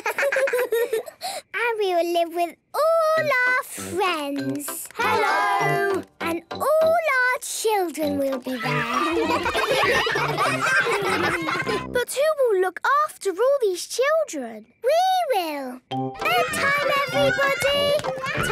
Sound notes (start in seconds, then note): 8.5 ruckus; 16.1 children playing